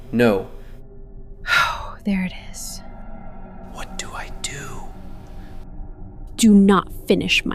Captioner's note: thoughtful